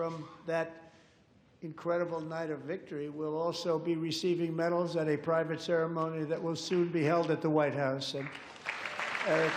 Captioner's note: applause